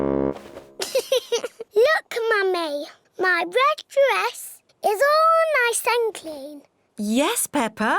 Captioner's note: giggles